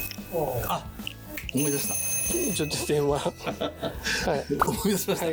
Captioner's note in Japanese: 電話が鳴り始めました。; 電話が鳴っているので待ってください。